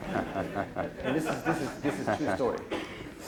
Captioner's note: audience laughs; laughs